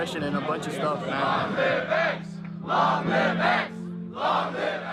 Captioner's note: chanting